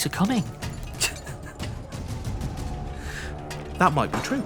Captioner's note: laughs